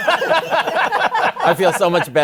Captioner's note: laughter